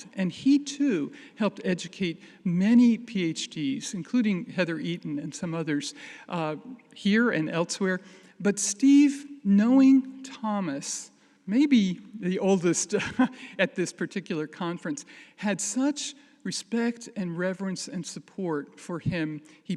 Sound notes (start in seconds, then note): 12.0 chuckles